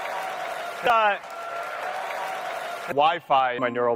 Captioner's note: loud Applause